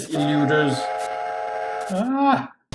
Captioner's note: steam whistle